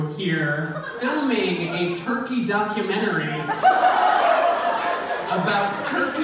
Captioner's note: audience laughs